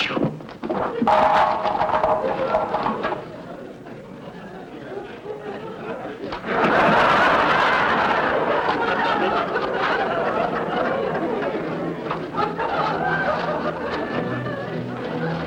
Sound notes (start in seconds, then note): 6.4 audience laughter